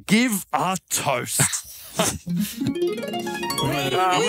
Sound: Michael laughing; harp Music

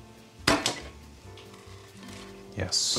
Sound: pan clattering

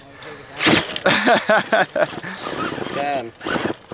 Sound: laughter

